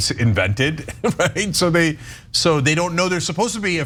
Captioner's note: laugh